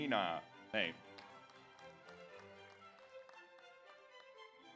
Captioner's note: audience applauds